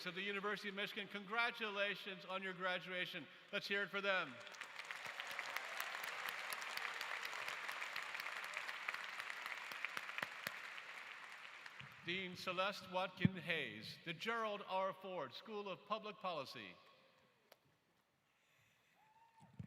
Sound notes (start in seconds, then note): 10.9 applause